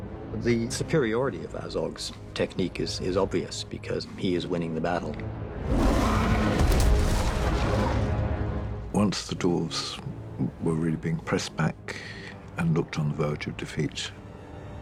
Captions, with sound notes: The superiority of Azog's technique is obvious because he is winning the battle. [ROARS] Once the Dwarves were really being pressed back... ...and looked on the verge of defeat...